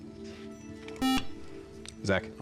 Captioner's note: beep